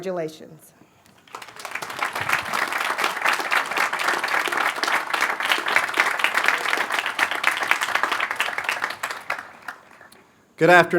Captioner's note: applause